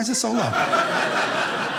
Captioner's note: audience laughing